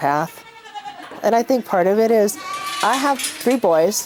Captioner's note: goats bleating